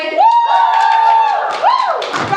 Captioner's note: cheering